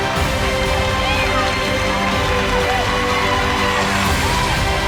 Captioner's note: audience cheering